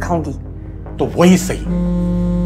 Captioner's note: phone buzzing